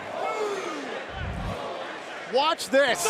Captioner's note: fans chanting